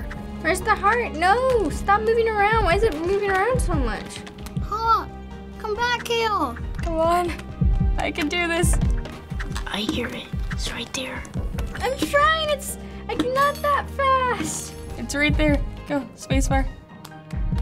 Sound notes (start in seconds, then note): 7.5 heart thumps; 11.0 heart thumps